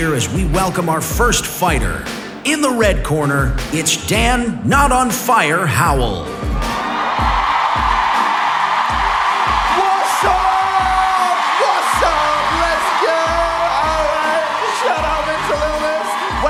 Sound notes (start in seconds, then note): 7.5 cheering